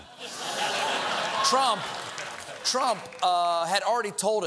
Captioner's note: laughter